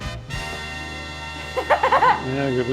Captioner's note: giggles